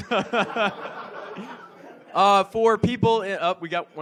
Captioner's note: audience laughs